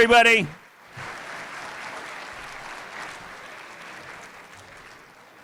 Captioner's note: applause